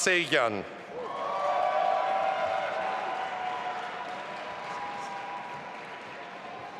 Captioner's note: audience applauding and cheering